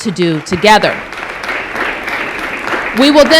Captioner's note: applause